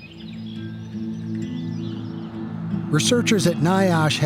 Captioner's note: birds chirping